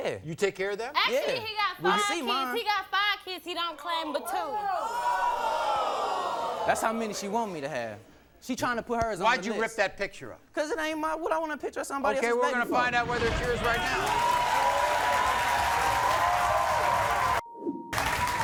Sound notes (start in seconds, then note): 4.8 audience oohs; 13.4 applause